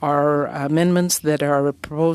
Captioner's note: speaking French